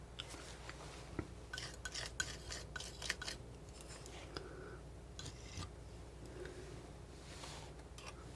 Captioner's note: scratching